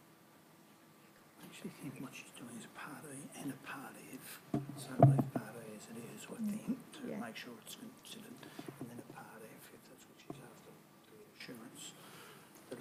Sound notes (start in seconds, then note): 5.0 speaks faintly